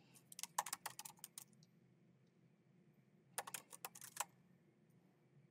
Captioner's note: keyboard clacking